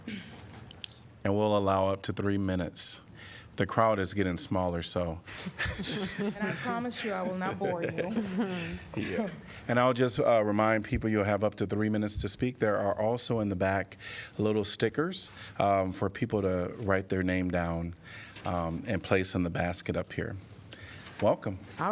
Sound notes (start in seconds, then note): 5.4 laughter